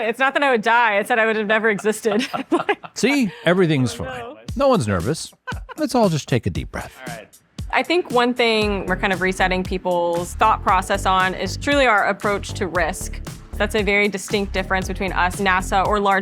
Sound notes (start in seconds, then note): 1.8 both laughing